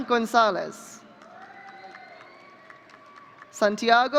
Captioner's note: audience cheering